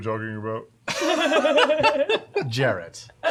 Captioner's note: laughter